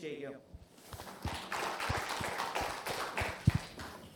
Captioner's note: applause